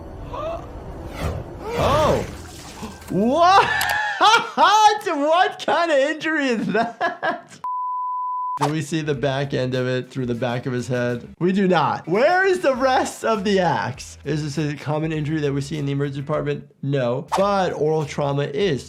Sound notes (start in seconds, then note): 0.2 Jake gasps; 1.0 axe whooshes; 3.1 laughs; 7.0 laughs; 7.7 screen beeps